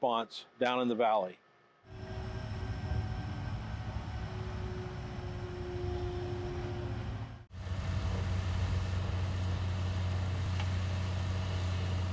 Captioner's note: heavy equipment noise